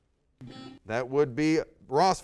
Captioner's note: buzzer sounds